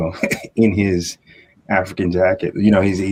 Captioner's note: chuckle